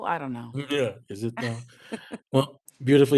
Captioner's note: laughs